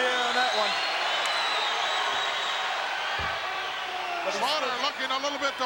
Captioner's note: crowd cheering